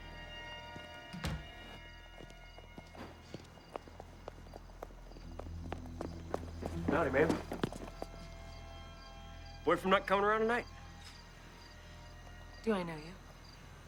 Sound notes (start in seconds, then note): 0.0 foreboding music; 2.5 footsteps tapping